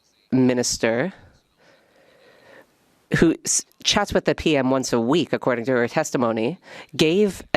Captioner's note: speaking French